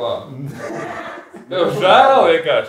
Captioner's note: laughs